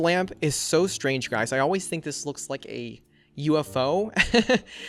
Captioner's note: laughs